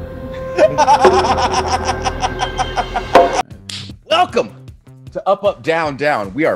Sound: laugh

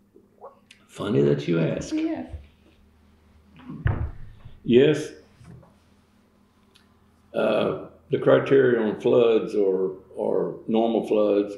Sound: laughs

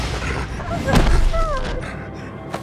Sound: whimpering

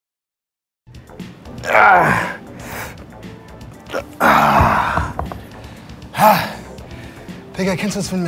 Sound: groans

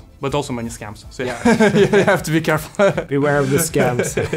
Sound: laughing

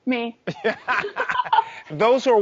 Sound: laughs

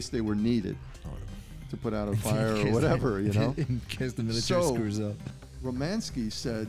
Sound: laughter

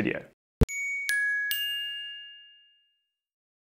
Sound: dinging

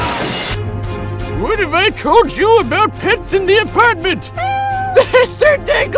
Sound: meow

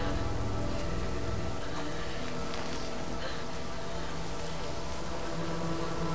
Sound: shivering and panting

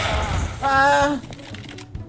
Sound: little scream of despair

